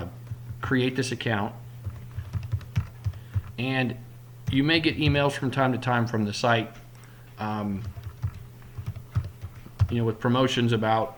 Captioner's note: typing